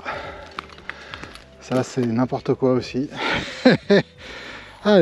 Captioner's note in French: rires